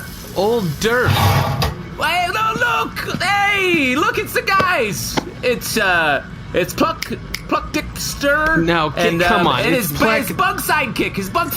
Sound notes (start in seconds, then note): 6.3 snapping; 9.0 exasperated